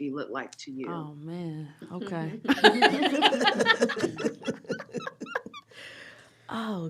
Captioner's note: laughter